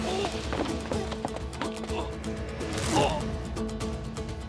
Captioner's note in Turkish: İnleme sesi